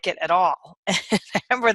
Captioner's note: chuckles